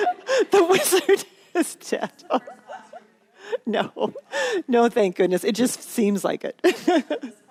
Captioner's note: laughter